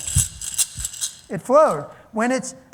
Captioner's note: rattling